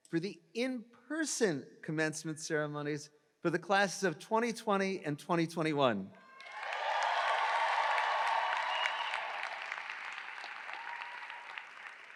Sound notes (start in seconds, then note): 6.3 audience cheering